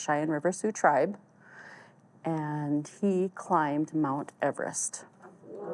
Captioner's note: audience exclaims